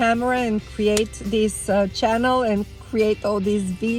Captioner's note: hand clapping; hand clapping